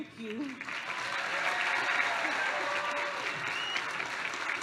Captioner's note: applause